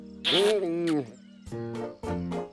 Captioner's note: mutters